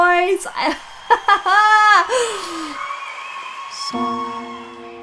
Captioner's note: laughs